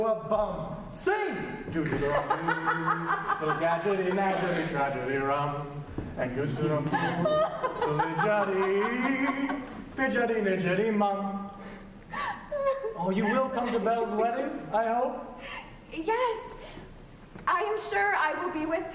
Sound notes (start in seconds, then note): 4.0 laughter